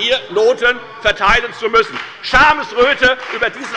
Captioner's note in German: Lebhafter Beifall bei der FDP